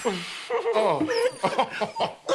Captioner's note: laughs; dog whimpering